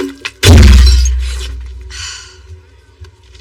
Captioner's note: sighs; dramatic music